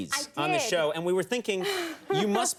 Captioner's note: laughs